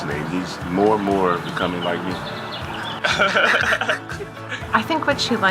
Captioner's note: laughter